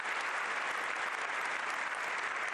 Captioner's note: applause